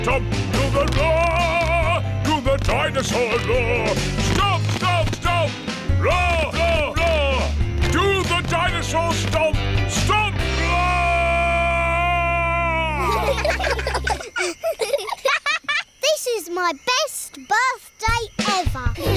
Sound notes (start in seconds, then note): 12.9 children giggle; 19.0 all laughing